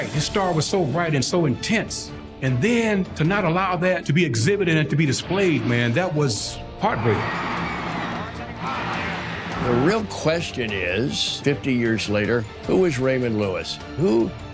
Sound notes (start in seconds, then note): 9.8 pat